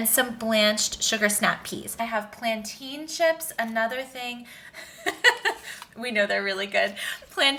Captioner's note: laughing